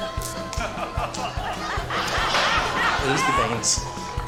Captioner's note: laughter